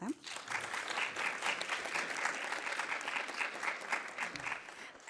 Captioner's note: audience applauding